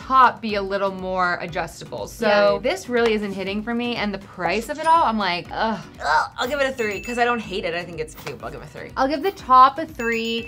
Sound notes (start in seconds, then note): 6.5 bell ringing; 9.9 bell ringing